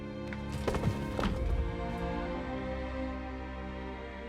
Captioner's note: bodies clunk